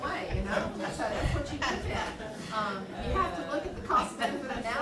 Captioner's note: laughing